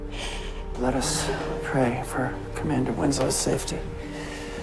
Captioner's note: voiceover